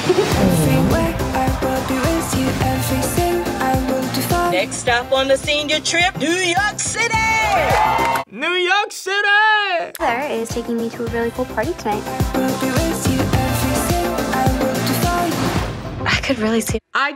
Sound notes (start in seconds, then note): 0.0 Lara Jean laughs; 7.2 students cheering